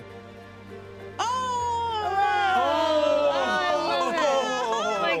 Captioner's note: all exclaiming